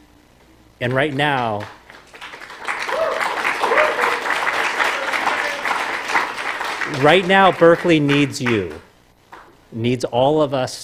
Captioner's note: applause